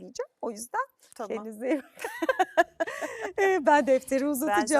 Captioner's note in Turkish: kahkaha